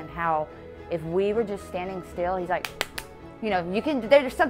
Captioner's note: claps